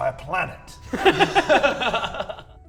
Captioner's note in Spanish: Risas